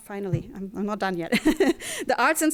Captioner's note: laughing